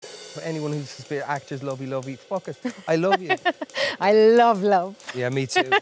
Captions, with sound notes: - For anyone who says, "Actors, lovey lovey," fuck it, I love you. (Jessie laughing) - I love love. - Yeah, me too.